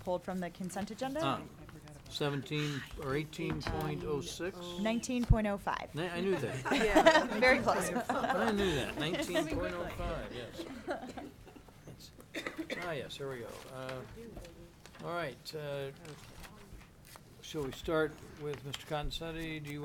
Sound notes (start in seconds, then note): 8.0 laughing; 10.5 laughing